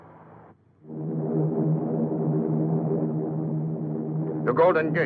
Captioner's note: engines roaring